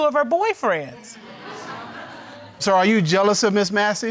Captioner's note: audience laughing